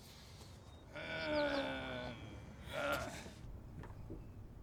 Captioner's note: moaning